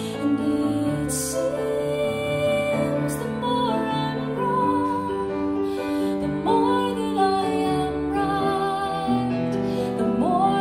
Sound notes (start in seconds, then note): none